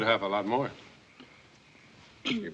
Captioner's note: coughing